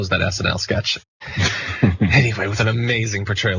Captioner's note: laugh